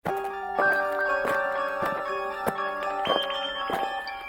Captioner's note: eerie music; alien marching